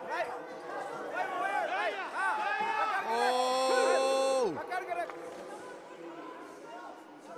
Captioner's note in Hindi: तालियां